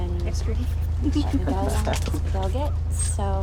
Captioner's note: Miguel and Suzy laugh